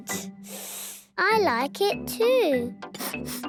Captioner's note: sniffs; sniffing